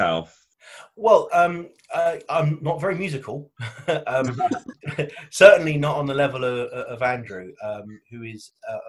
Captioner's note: he laughs